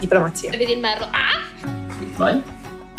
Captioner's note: squawks